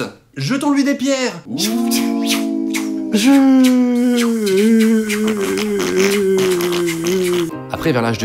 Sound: boohoo, psss, snorts

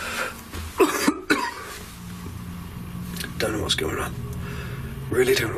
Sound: coughing

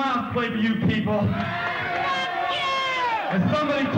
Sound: cheering

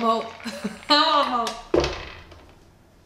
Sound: laughter

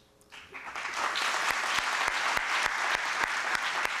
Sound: applause

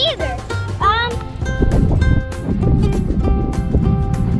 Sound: wind whooshing

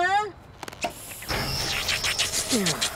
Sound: slurping

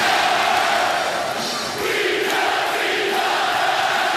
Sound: crowd

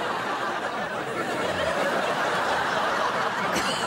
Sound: laughing

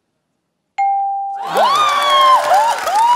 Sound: cheering

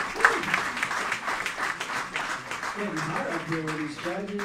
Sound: cheering; applauding

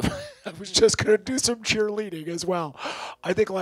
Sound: laughs

